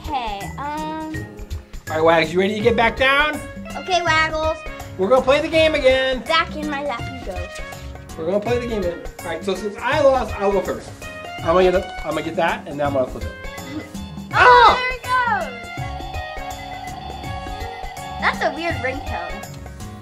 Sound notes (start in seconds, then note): 15.5 phone prank ringing